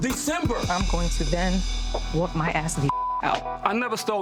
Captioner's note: beep